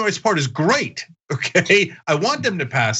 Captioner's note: laugh